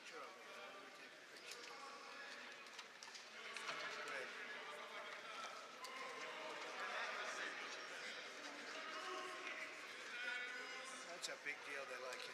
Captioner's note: indistinct background chatter